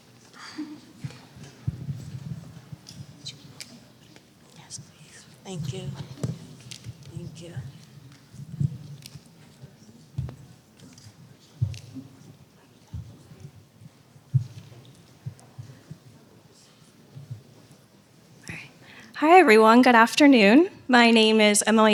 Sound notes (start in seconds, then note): 9.2 silence